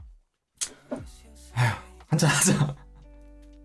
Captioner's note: sigh